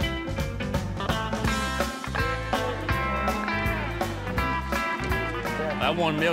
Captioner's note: cattle mooing